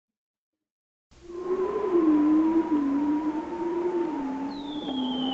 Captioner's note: bearded seal vocalizing